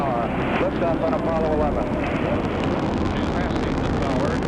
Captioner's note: engine roaring